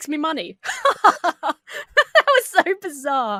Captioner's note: laughs haughtily